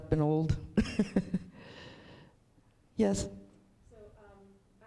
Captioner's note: chuckles